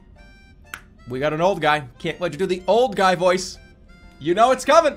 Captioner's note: claps hand